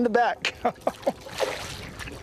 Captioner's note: laughter